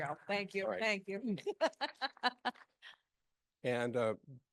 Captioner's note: laughing